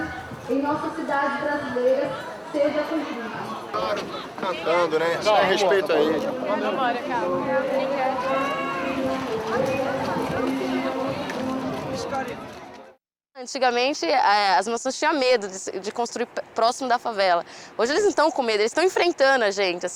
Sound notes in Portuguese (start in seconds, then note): 5.8 Vozes